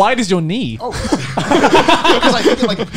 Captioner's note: laughing